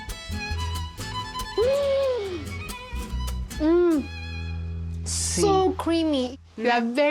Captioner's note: gasps